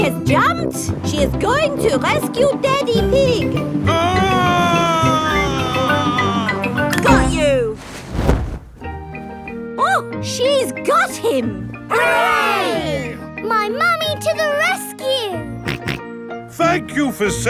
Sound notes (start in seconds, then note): 3.8 screaming; 16.4 snorting